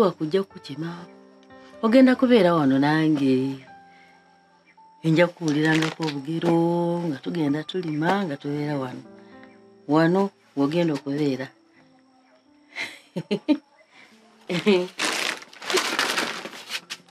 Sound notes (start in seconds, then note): 12.7 chuckles